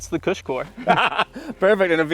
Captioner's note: laughs